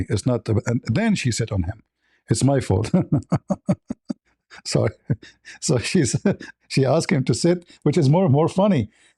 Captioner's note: laughter